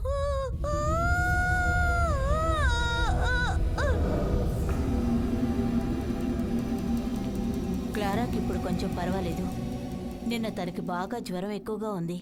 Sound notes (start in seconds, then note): 1.2 scream of Agony